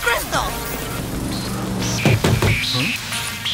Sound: knocking

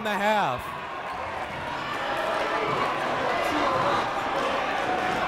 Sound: crowd talking

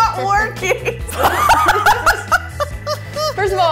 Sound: laughs

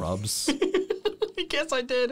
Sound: laughing

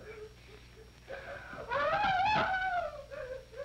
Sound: crying

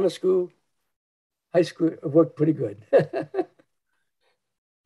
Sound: chuckles

